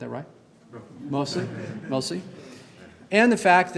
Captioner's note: group chuckling